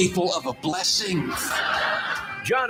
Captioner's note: audience laughing